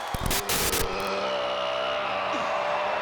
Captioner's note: static hisses